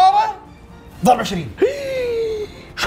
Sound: gasps

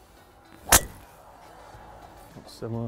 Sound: golf Ball Being Hit

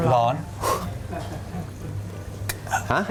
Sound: blowing sound

